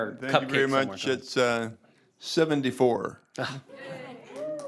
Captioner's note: applause